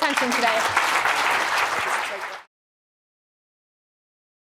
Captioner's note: audience clapping